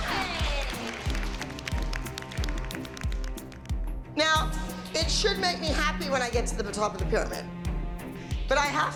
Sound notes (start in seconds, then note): 0.0 cheering and clapping